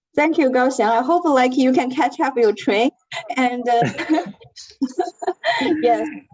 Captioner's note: laughs